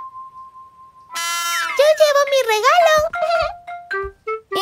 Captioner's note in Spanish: Sonido de bocina